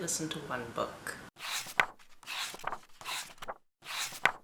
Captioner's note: pages turning